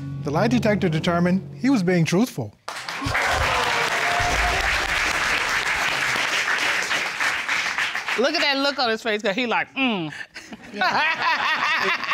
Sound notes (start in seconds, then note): 3.0 audience exclaims; 10.2 laughs